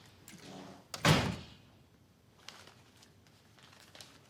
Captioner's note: door slams